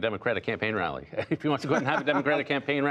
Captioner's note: laughter